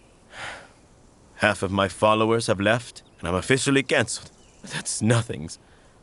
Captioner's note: sighs